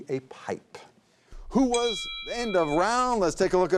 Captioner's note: bell dings